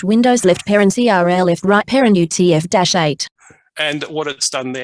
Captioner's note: fragmented, rapid speech